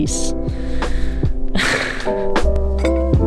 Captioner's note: laughs/breathes sigh of relief